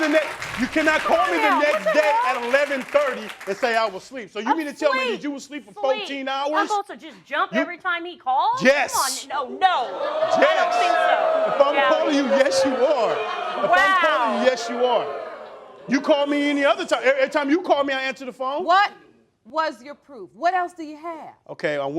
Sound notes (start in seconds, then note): 10.7 crowd booing